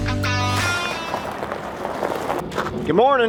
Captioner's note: crunching gravel